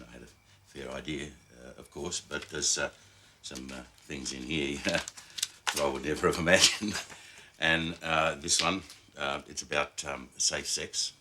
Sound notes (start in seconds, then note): none